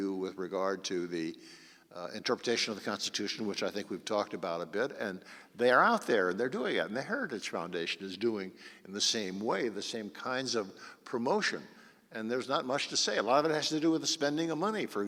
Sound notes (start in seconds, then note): none